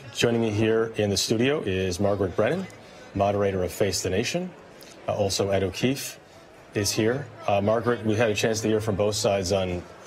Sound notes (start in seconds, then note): none